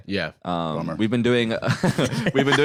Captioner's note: laugh